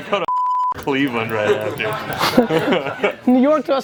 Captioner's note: laughs